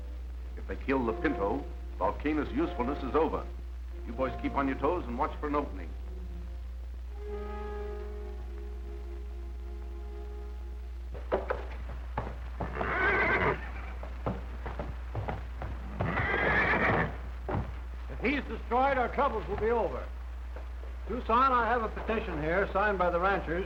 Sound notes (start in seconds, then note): 12.6 whinnying